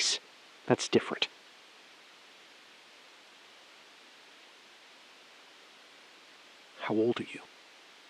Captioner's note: SILENCE — 5 sec